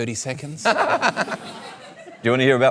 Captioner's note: laughter